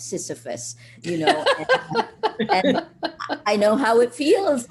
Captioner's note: laughing